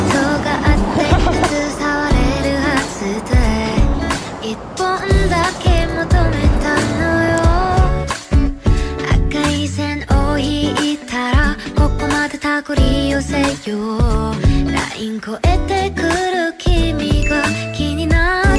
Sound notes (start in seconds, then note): 0.6 chuckling